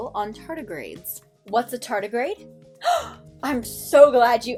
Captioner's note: gasp